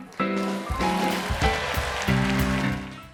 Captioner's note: applause